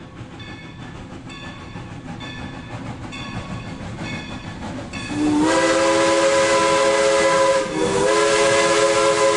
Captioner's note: train sound